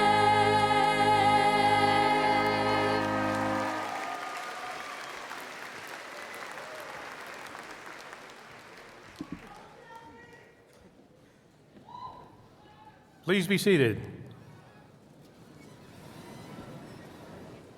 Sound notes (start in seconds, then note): 3.0 applause